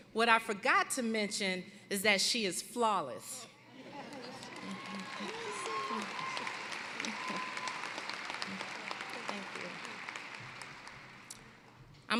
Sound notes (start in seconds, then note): 4.0 applause